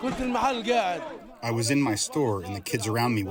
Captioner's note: through translator